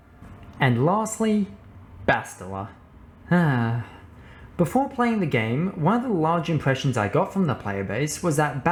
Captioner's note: sigh